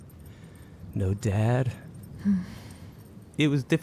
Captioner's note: Amy sighs